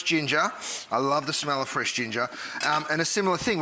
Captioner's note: sniffs